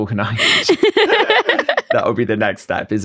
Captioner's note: both laugh